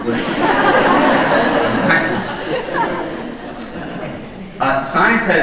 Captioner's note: audience laughing